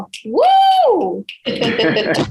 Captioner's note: exclaims; both laugh